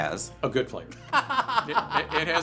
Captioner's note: laughter